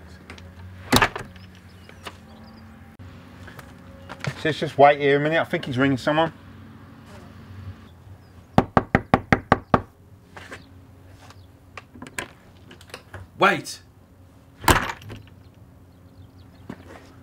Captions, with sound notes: He says wait here, I think he's ringing someone. (knocks) Wait. (door slams)